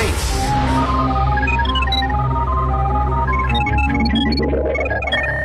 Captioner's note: robotic bleeping